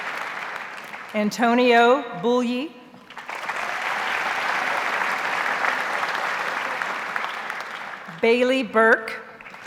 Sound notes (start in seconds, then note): 3.1 audience applauds